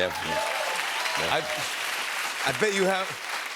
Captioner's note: cheers and applause